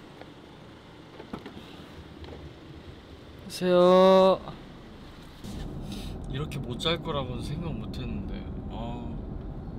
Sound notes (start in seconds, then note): 5.8 sniff